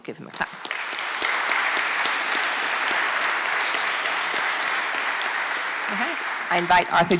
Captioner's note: applause